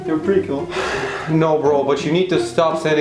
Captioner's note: sigh